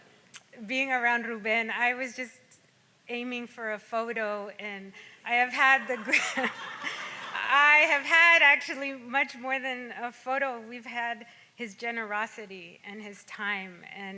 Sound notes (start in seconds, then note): 5.8 laughs; 5.8 audience laughs